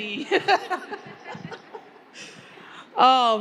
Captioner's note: panelists laughing